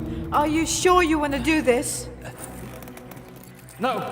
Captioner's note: Madeleine's voice echoing